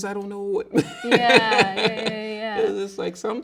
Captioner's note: laughing